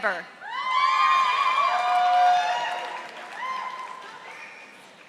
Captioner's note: audience applauding